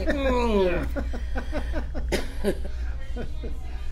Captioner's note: laughs